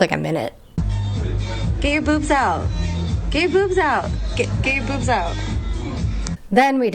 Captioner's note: hoots